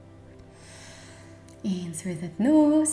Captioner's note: inhale